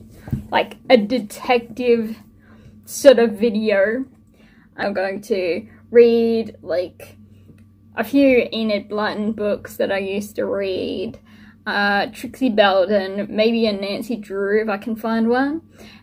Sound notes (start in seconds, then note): none